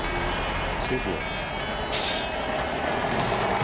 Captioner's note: replying in lithuanian